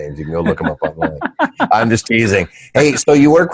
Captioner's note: laughing